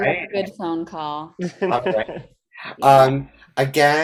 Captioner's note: laughs